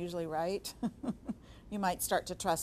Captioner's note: chuckling